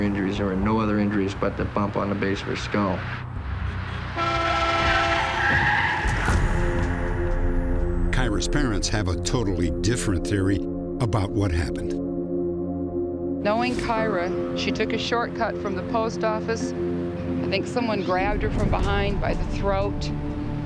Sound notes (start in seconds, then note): 3.6 horn honking; 4.5 tires squealing